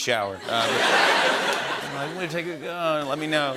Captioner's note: laughter